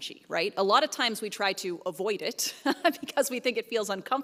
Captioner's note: chuckles